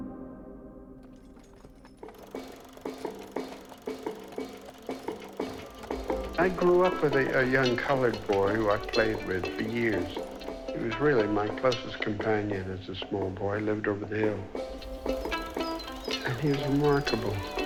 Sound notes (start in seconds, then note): 1.8 cart rattling